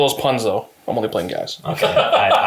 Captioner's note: laughs